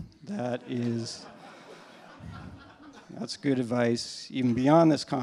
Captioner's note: laughter